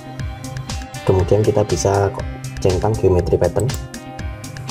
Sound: click

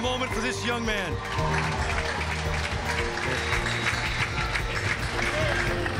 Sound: audience applauding

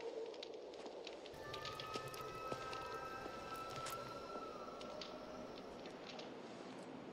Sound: lady whistling

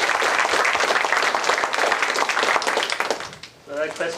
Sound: applause

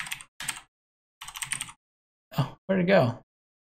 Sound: computer keys

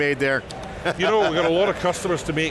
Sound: laughing

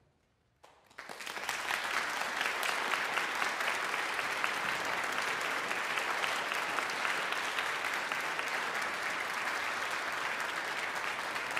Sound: audience applause

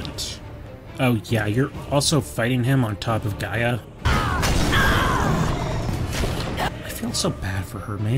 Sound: Gaia screams in pain

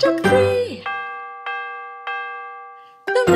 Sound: clock chiming

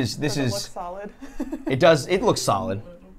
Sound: laughs

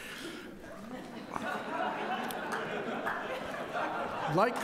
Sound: crowd laughing

